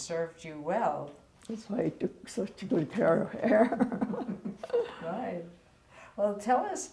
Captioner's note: laughs